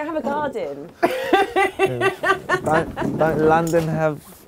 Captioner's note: laughing